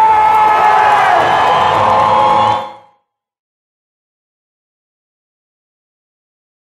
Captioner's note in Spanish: aplausos